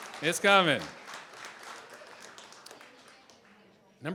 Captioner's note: applause